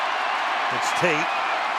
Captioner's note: cheering